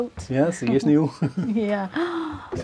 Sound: laughs

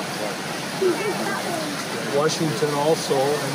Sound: fish splashing

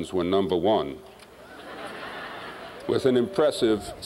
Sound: laughter

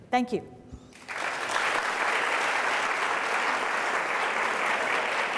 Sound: audience applause

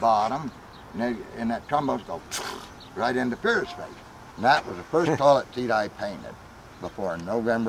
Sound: sputtering noise

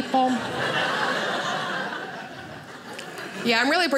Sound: audience laughing

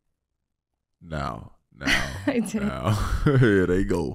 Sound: laughing

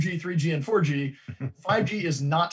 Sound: chuckles

